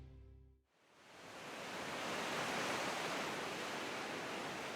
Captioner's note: waves brushing shore